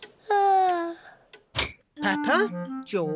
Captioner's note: yawns